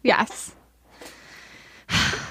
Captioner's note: groaning